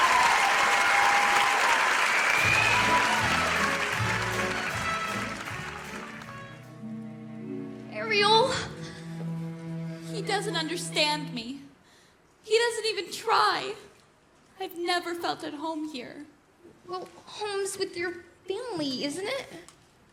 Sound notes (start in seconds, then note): 0.1 singing; 2.5 applause; 5.2 cheering